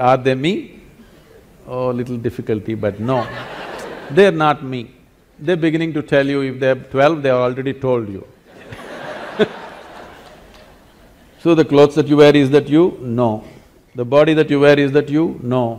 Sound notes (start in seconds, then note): 3.0 laughter; 8.5 laughter